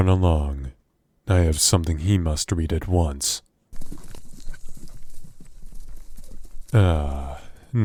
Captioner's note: horse running off